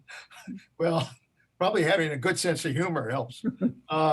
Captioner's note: laughs